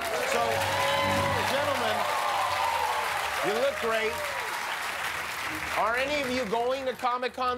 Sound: cheers and applause

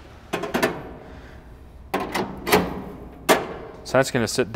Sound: grill rattling

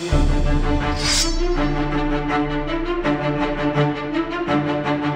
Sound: sword unsheathes

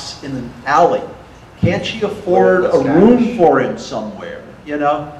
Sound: audience murmur

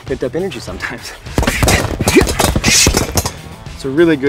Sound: punching bag thuds

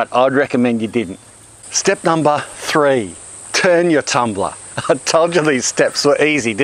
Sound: laughing

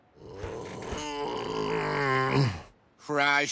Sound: groaning

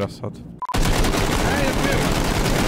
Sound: shooting

